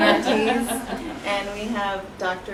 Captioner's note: laughter